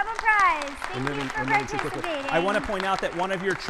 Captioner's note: audience applauding